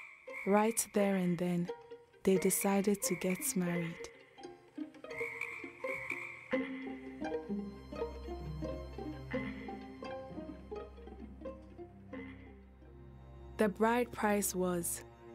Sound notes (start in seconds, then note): 4.4 frogs croaking